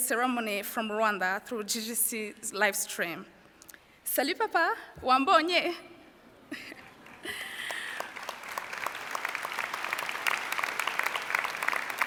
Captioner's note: French